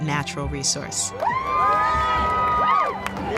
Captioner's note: cheering